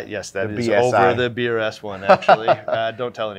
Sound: laughs

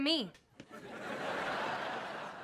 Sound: laughing

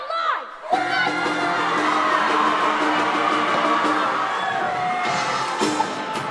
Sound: applause

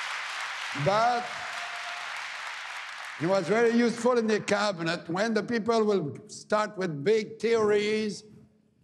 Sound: cheering and APPLAUSE

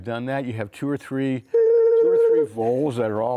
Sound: playful mouth noise

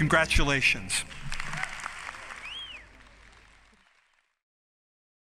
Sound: crowd applauding

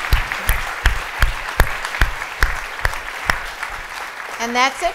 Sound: audience clapping

